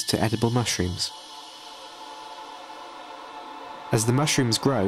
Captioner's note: oscillating drone sound